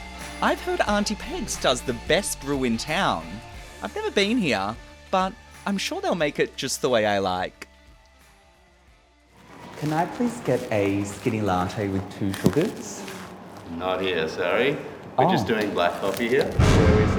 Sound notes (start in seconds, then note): 9.4 ruffling